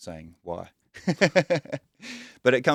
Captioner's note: laughs